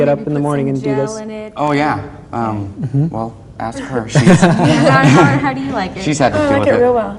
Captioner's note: laughter